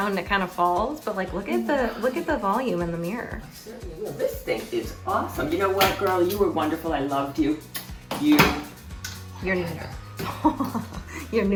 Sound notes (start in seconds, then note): 8.9 mom kissing; 10.2 chuckling